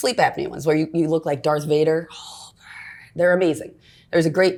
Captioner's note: breathes heavily